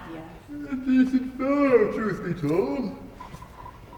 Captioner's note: yawning